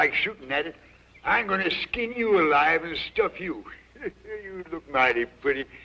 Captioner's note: laughs